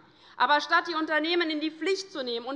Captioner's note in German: none